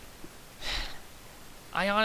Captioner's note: sigh